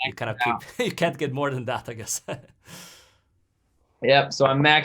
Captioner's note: chuckles